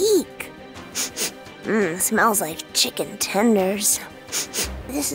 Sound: sniffs; sniffs

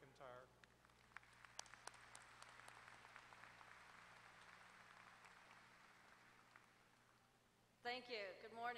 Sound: applause

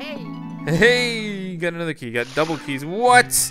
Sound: voiceover

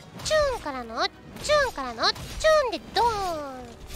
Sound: slashing Sound

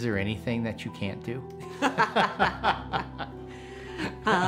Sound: laughing

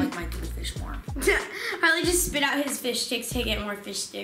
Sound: laughing

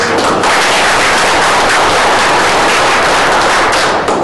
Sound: audience applauding

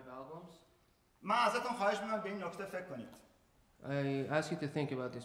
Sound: speaking in farsi

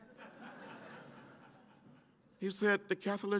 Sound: laughter

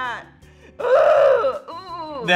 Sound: screams

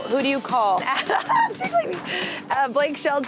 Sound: laughing

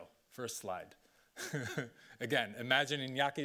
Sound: laughing

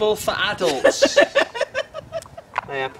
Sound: laughter

